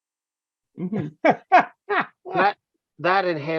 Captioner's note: laughter